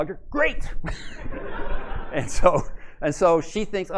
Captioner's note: laughter